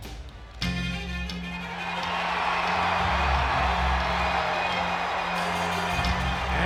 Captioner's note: crowd cheering; upbeat music